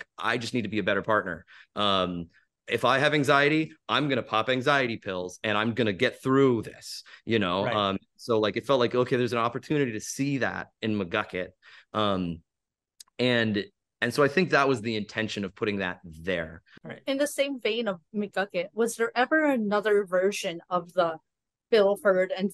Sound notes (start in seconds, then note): none